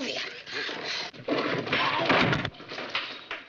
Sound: yells

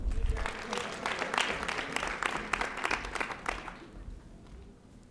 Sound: audience applauding

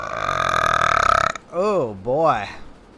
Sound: burrrp

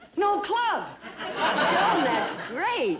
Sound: audience laughing

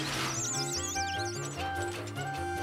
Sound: mice squeaking

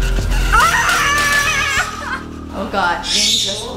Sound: suspenseful music; yelling

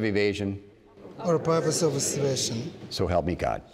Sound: crowd

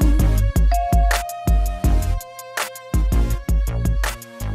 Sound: elevator bell ringing

